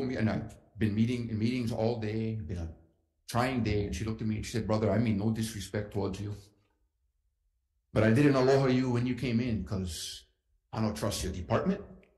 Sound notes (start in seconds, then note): none